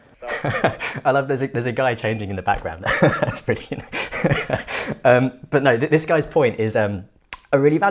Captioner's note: laughs